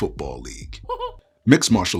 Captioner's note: cartoon Mouse Chuckles